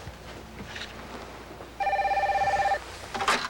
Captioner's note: ring